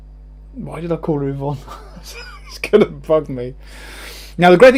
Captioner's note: chuckles